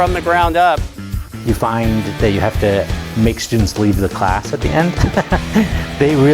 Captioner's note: laughing